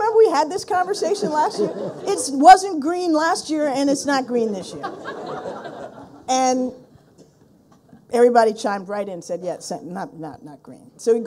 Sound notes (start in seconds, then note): 4.6 people laughing